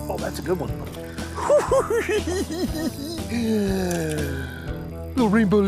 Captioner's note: giggling